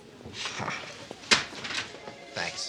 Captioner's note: scoffs